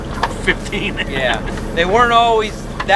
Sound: laughs

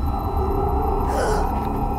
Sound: gasp of terror

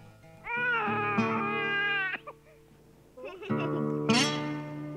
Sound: baby crying; warm music; child laughing

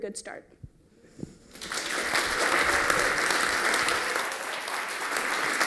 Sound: applause

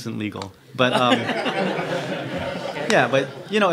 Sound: crowd laughs

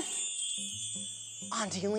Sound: magical chime

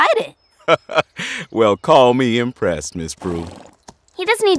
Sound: chuckles

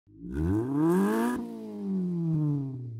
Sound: engine revs

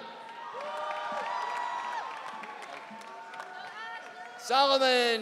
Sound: audience cheering

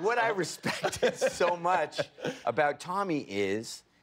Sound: laughter

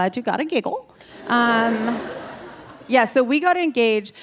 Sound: audience laughing

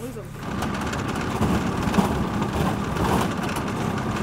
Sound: engines

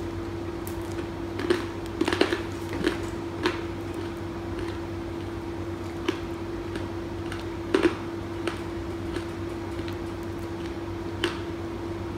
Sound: crunches into delicious strawberry candy apple

